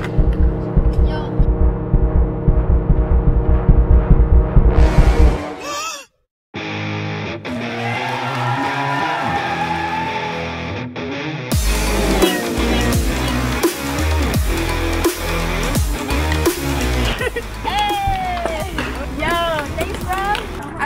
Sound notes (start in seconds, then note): 0.0 high tempo music; 6.0 narrator gasping; 6.5 rock music; 7.4 audience cheering; 10.7 rock music